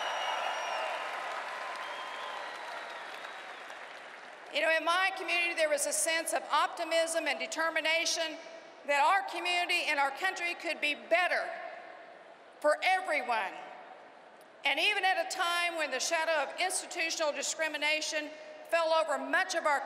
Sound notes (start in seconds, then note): 2.9 cheering and applause